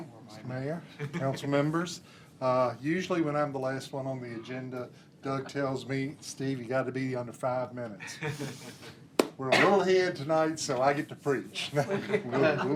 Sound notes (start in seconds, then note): 8.4 laughter